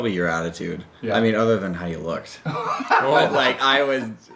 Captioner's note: laughs